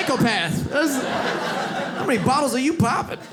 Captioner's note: audience laughs